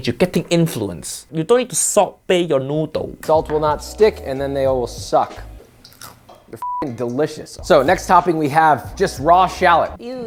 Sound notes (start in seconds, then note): 5.9 noodle crunching; 6.6 beep